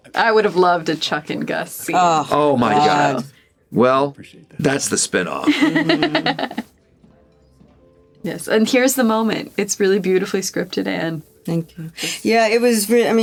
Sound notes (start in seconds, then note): 5.4 laughs